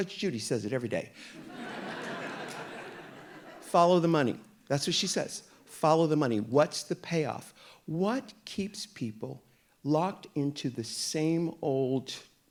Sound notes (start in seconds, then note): 1.3 audience laughing